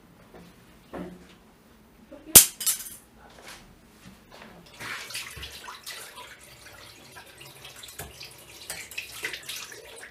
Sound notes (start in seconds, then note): 2.3 knife drops in silent bathroom